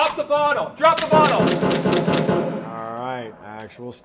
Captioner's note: gun booming